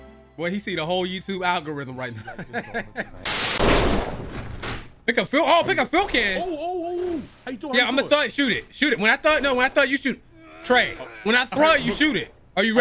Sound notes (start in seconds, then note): 2.0 laughs; 4.0 crashing sound